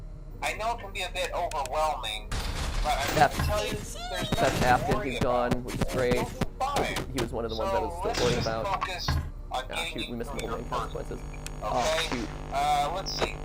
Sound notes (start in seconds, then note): 2.3 loud crashing sounds